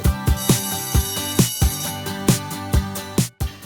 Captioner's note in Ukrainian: лунає дзвінок